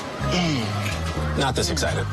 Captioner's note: grunting